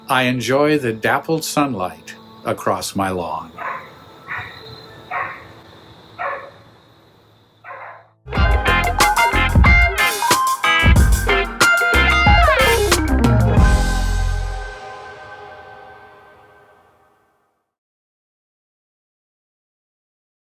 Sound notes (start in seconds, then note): 4.1 dog barking; 8.3 gentle upbeat music